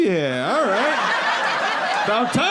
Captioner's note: audience laughing